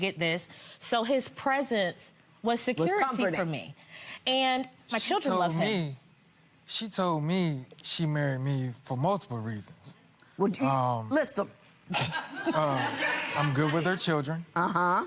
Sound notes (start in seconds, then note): 11.9 gallery laughing